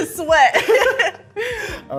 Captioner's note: laughing